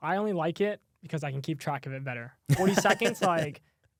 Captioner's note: laughs